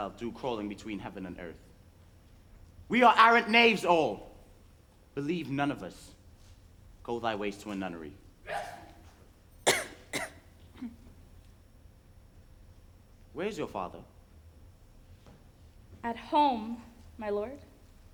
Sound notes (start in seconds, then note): 8.4 Polonius sneezes; 9.6 Ophelia coughs